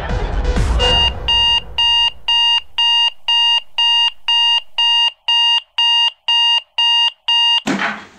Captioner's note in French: Un réveil sonne